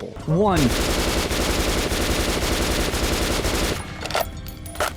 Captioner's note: gunshots